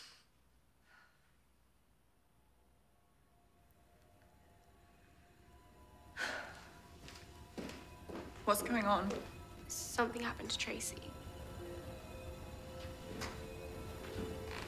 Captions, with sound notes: (ominous music) (Miss Dawson sighs) - What's going on? - Something happened to Tracy. (ominous music)